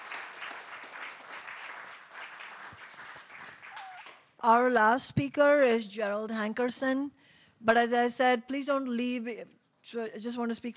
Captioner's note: applause